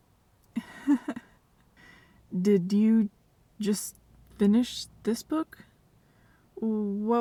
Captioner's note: nervous chuckle